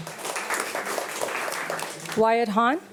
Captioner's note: audience applauding